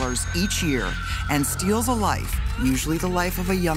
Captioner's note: sobbing